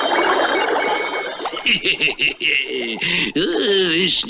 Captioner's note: Simon Bar Sinister Laughs